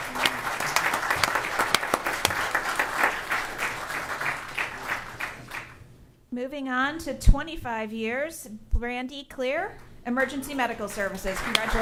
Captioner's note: applause